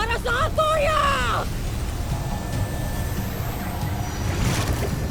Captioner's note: evil energy whoosh & crackle